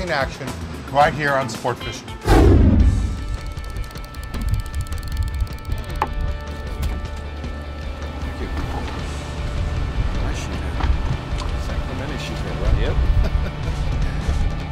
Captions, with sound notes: more exciting action right here on Sportfishing. [whooshing sound] [light background music] [sound of line reeling] Nice sheephead. San Clemente sheephead, right?